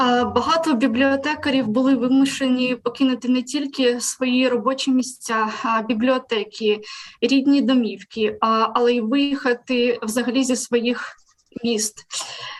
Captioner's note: foreign Language